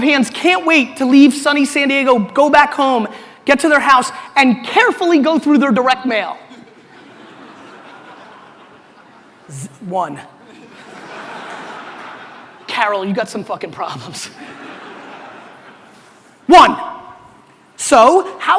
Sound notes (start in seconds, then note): 6.5 audience laughter; 14.2 laughs; 14.3 audience laughter